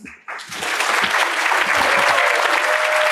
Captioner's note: applause